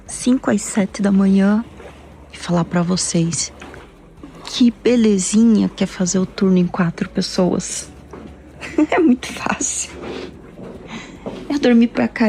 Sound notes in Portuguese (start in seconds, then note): 8.6 risadas